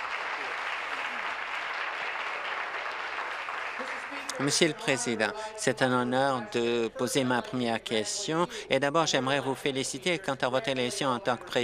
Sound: applause

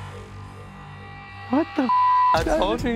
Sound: beep

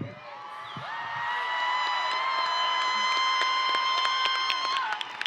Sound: audience and graduates cheering; audience and graduates applauding

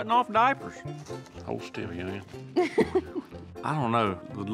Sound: laughing

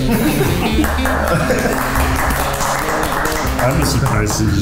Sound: judges clap

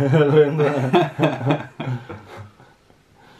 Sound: laughing

